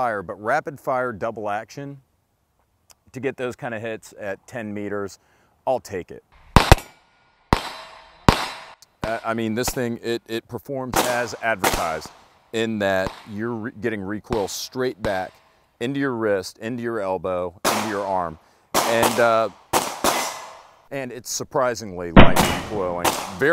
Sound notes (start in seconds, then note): 6.5 gun shots